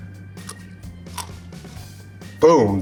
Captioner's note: pepper crunches